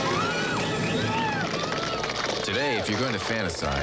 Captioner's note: applause